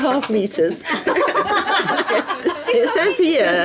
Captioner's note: laughing